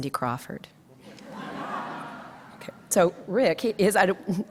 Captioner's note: audience laughs